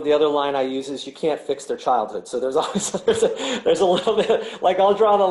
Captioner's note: laughing